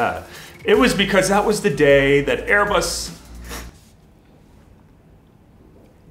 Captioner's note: sniffle